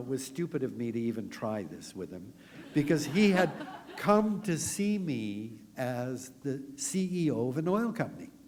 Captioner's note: laughter